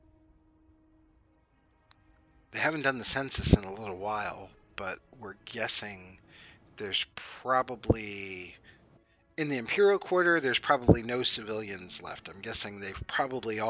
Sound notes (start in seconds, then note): 2.7 exhale